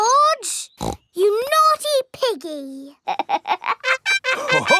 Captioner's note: snorts; laughs